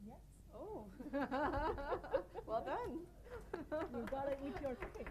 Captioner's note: laughing